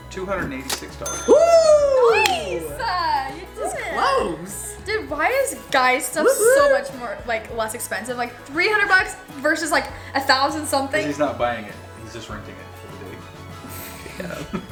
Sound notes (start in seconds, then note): 0.2 male Voice; 11.0 male Voice